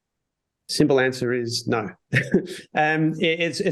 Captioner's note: laughs